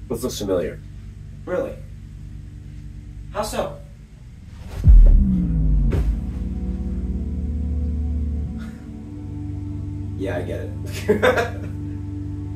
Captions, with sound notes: This looks familiar. Really. How so? Yeah, I get it. (laughs)